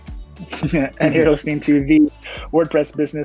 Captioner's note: chuckles